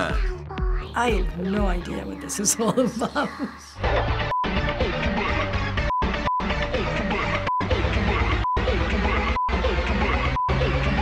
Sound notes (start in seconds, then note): 2.5 laughing; 3.8 aggressively